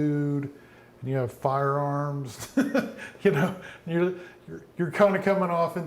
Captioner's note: laughs